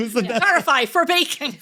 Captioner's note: laughing